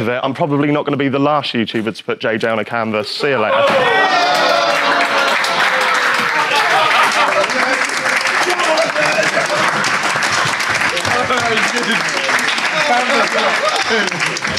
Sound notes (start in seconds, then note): 3.9 audience groans; 5.0 Sidemen applaud